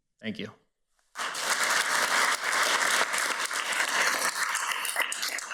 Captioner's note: everybody applauds